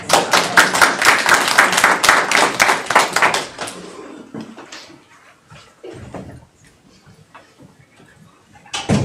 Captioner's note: audience applauding